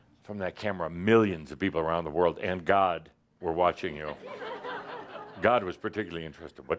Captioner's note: some laughter